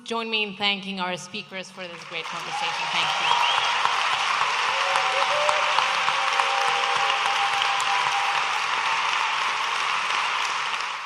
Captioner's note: audience applauding and cheering